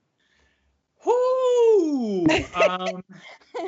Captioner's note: laughing